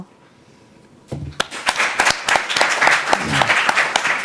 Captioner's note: applause